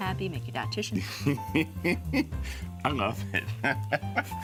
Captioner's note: laughing